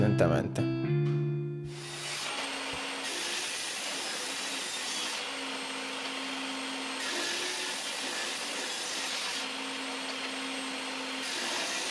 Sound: table saw

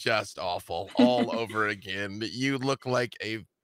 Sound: laughing

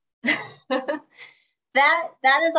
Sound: chuckles

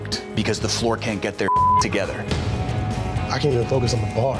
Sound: beep

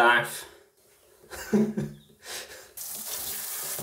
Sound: laughs

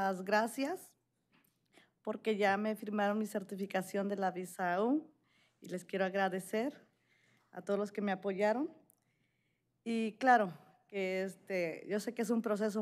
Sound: speaking spanish

